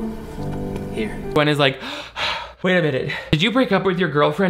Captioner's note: panting